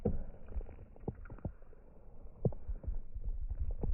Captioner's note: heart beats